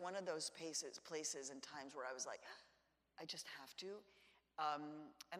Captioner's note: gasps